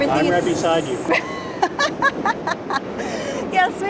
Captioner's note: laughs